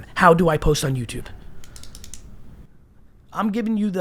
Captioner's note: clicks pen